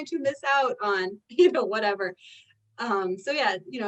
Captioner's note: chuckles